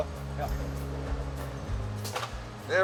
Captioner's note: machine clicks